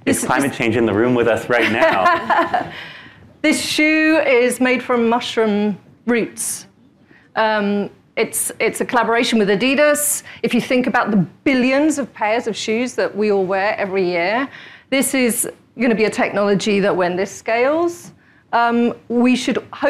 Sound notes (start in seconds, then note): 3.2 laughing